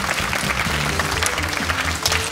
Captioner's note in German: Applaus